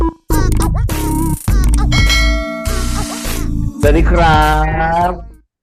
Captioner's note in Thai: เสียงกระดิ่ง